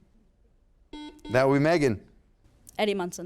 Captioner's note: buzzer sounds